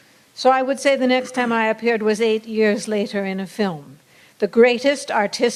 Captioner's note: laughter